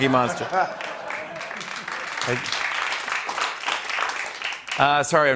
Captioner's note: laughter, applause